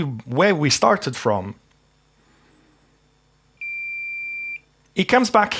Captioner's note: beeping